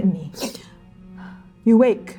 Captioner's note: gasping